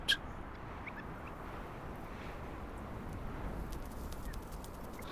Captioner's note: birds squawking